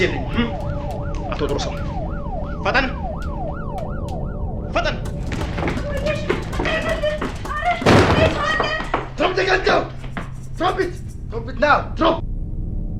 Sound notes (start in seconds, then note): 0.0 police Sirens; 7.8 gun Shot